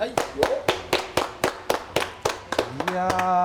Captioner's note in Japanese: 拍手